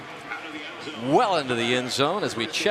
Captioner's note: pa announcement